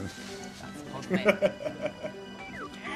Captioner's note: laughs